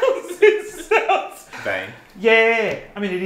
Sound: laughing

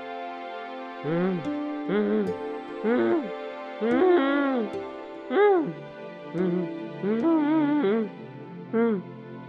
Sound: groaning

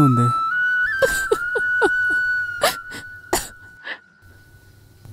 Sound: crying

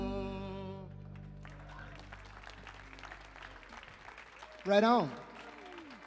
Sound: audience applauding

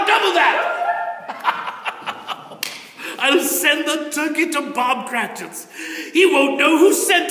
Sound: children Cheer

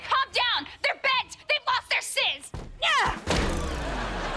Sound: grunting

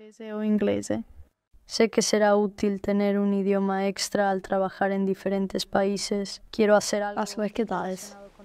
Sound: Spanish

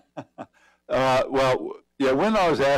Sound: laughter

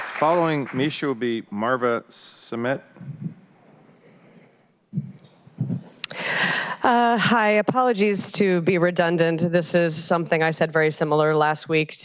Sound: applause

